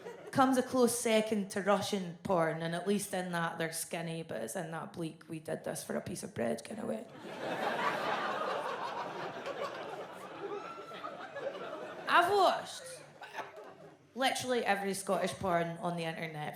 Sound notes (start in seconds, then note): 7.1 audience laughs